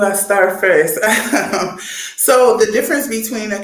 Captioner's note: chuckles